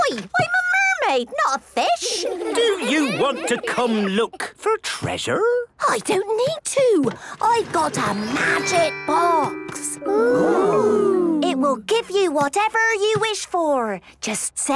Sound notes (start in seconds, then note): 2.0 children giggling